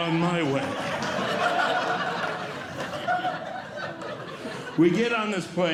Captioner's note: audience Laughing